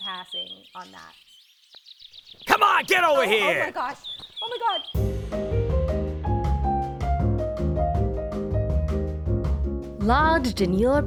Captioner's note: hoots